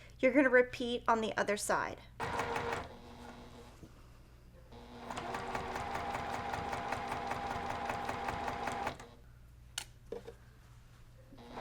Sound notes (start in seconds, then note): 2.8 sewing machine humming